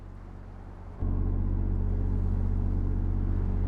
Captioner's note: electrical humming